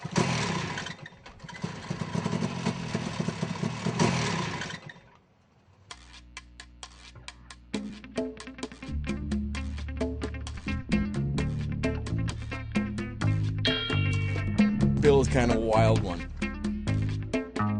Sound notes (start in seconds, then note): 0.2 voiceover; 3.1 motor sputtering; 10.7 guitar and bongo music